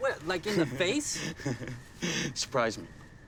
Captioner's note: chuckles